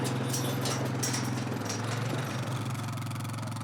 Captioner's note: gate clatters